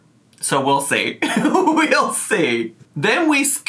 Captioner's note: laughing